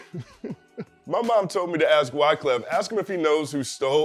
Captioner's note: laughs